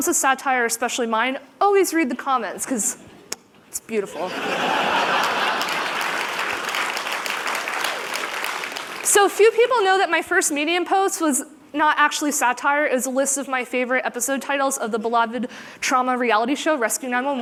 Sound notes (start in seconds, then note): 4.0 laughter; 7.1 applause